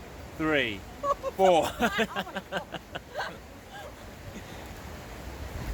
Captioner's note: both laughing